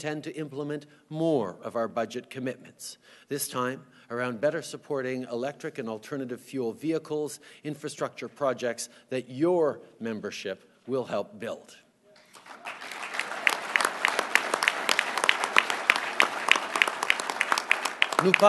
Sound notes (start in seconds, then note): 12.2 applause